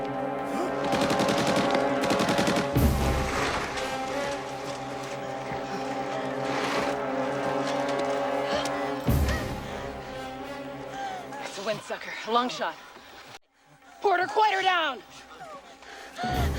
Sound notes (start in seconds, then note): 0.9 machine Gun Fire; 8.6 panting; 13.8 Warzenak Sobbing